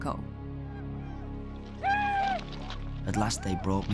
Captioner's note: men whooping